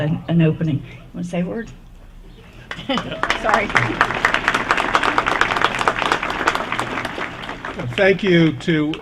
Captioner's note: applause